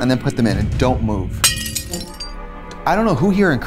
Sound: glass breaking

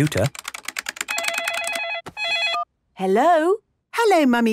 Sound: phone ringing

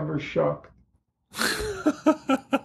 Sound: laughter

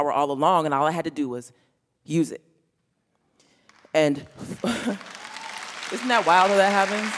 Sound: applause

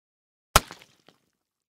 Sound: bump

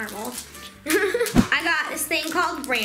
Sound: laughing

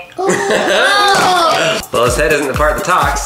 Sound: laughs

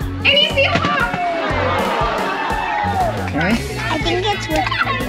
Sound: crowd oohs and aahs

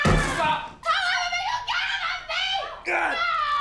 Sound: screaming

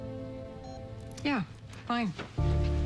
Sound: cellphone beeps

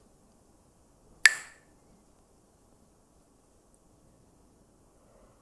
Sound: clacks the sticks

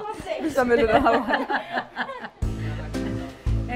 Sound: laughs

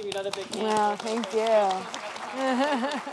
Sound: audience applauds; laughs; speaks off mic

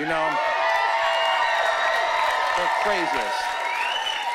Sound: cheering and whooping

